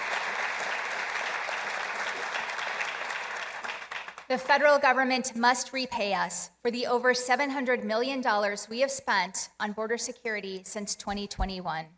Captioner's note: applause